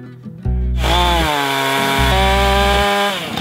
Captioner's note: chainsaw